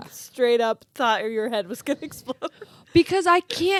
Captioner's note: laughs